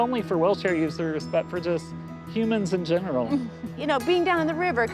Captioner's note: laughs